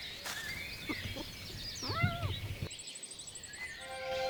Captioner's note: wildcat meows